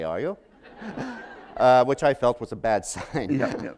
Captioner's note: laughter